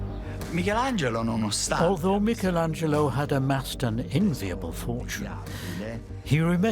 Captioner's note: in Italian